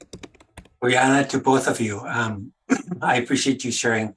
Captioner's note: speaking in Native language